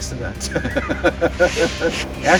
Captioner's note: chuckling